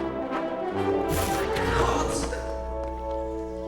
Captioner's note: yells